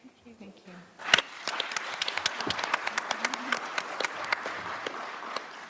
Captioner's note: applause